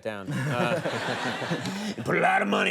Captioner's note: audience amused